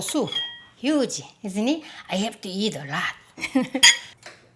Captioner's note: laughs